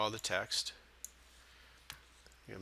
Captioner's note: sound of mouse clicks